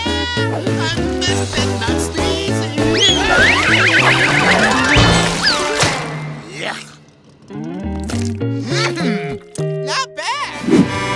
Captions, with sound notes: I'm the best at not sneeziiiiiiiii... [screaming] Yuck! Mmm-hmm! Not bad!